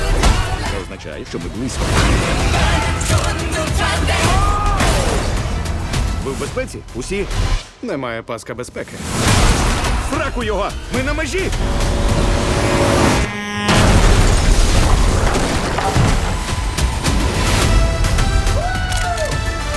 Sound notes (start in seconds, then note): 11.4 horn blaring; 11.5 engine revving